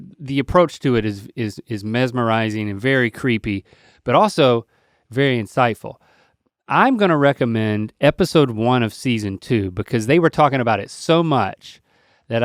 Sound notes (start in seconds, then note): none